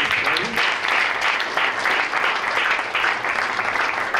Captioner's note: applause